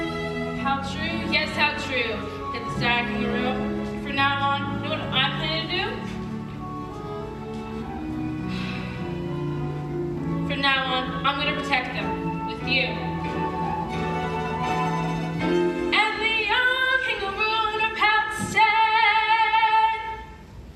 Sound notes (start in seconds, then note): 8.4 Sour Kangaroo sighs; 15.1 singing